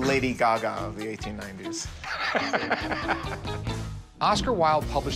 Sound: laughs

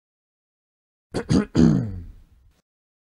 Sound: sound of clearing the throat

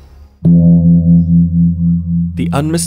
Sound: gong sounds

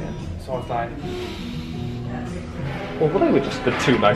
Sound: inhales deeply

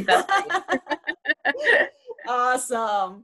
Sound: laughs

